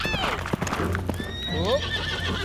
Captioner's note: horse whinnies